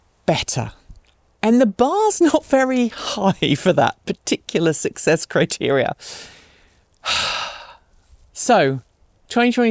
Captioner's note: sigh